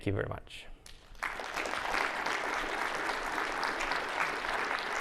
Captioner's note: audience clapping